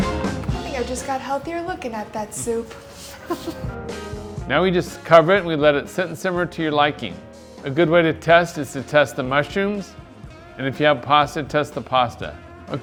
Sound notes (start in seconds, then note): 0.0 uptempo music; 2.9 chuckles; 3.4 uptempo music